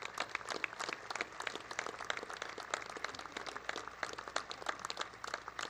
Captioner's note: applause